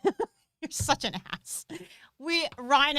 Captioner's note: laughing